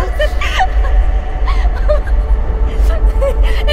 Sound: laughter in background

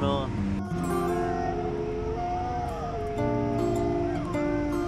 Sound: sound of an unknown animal

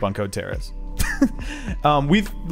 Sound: laughs

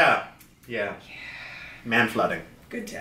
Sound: sighing

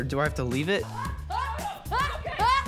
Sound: screaming

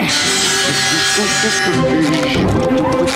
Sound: humming

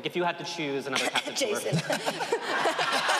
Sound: cough; audience cheers

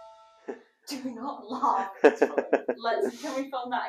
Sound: laughter

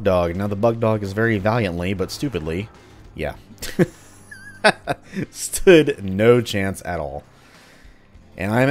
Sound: laughs

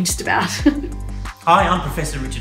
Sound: laughs

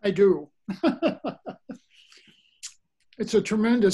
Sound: laughs

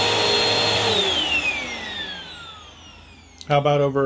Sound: vacuum shuts off

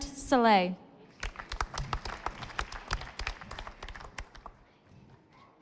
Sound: audience applauding

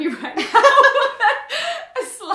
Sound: laughing

